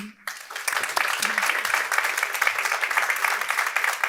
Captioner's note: audience applauding